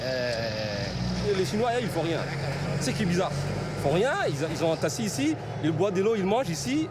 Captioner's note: speaking foreign language